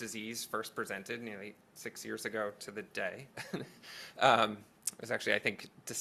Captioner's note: laughs